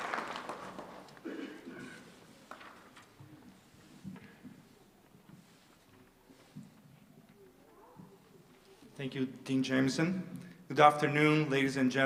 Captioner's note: applause